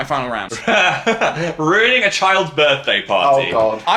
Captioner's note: laughs